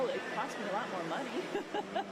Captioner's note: laughter